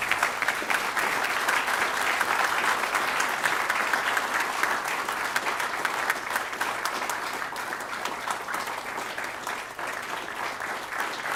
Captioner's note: applause